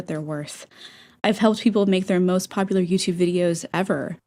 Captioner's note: inhale